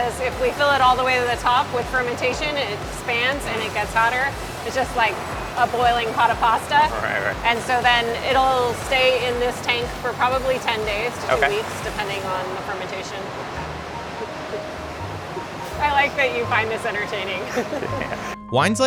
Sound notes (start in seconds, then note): 14.0 chuckling